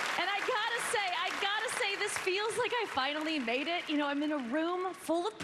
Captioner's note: cheers and applause